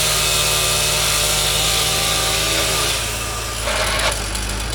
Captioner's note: chainsaw humming